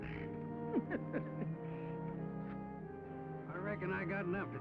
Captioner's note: laughing